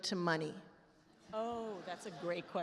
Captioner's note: attendees laugh